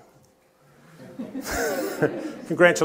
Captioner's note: laughter